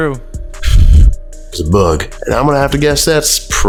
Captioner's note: blows